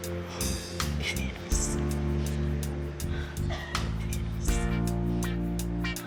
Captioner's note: sobs